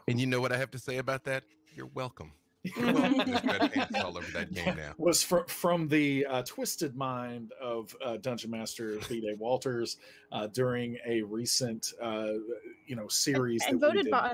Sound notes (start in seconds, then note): 2.6 group laughs